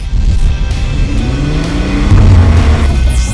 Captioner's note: engine revving